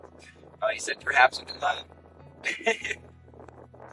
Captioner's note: laughs